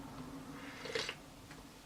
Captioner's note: slurp